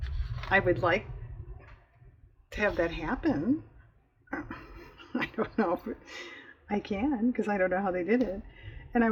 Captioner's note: laughs